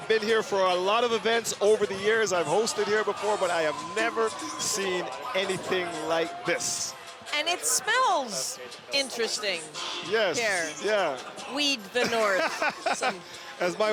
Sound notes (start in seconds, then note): 2.3 cheering